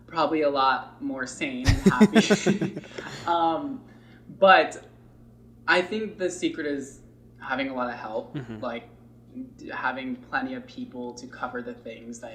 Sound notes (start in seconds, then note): 1.6 laughs